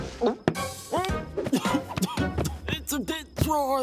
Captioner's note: coughing